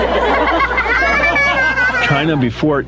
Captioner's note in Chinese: 吹号角声减弱; 笑声